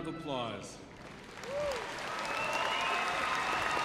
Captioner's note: cheers and applause